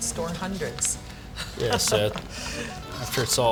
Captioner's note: laughing